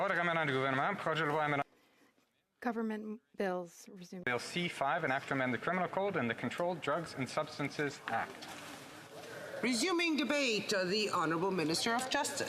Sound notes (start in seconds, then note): 6.5 speaking French